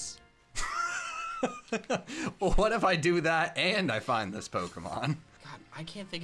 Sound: laughs

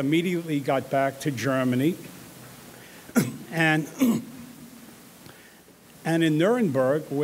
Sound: clears throat

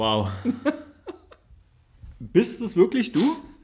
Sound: laughs

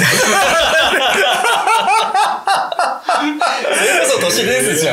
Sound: laughing

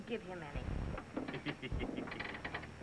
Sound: laughing

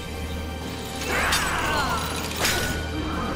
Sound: grunting

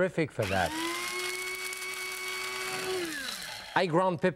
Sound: coffee grinder pulverizing

